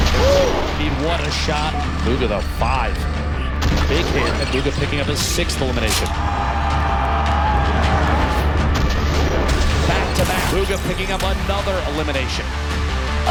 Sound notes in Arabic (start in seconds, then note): 5.6 تشجيع الجمهور